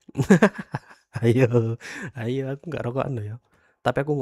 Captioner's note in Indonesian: tertawa